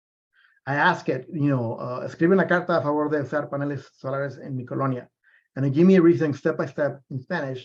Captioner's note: speaking spanish